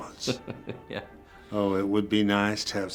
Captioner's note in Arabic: تضحك